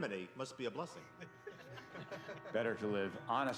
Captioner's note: laughing